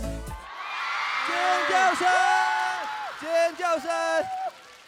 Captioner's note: audience screaming